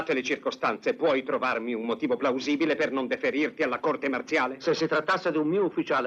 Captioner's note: none